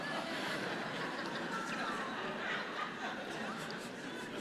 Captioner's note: congregation laughing